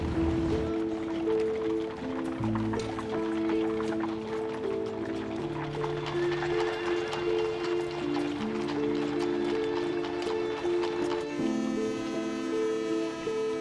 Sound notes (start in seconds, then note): 5.9 horses whinnying, hooves clomping; 11.1 ship horn blaring